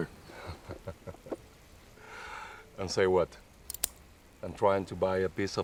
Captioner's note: laughing